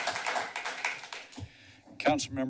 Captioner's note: clapping